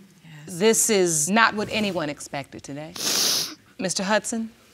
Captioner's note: sniffs